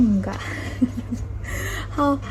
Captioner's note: nervous laughter